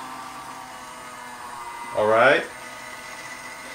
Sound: motor

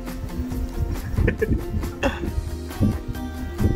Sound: chuckle

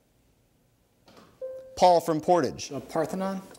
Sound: bell dings

